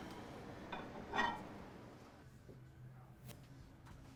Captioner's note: dish clinks